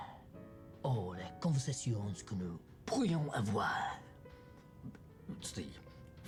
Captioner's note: speaks in the French language